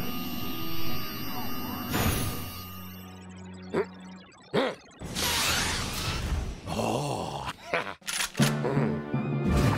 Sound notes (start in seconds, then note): 3.3 grumbles; 7.1 evil giggling; 7.4 chuckles